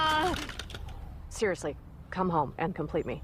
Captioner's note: crying out